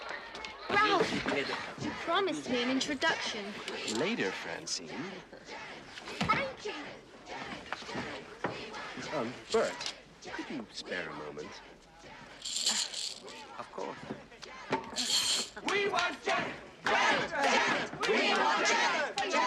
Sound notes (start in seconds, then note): 6.1 Топает ногой; 15.5 Скандирование продолжается